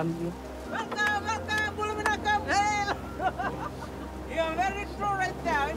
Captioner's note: laughs